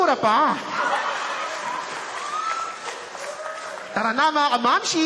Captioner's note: laughter, applause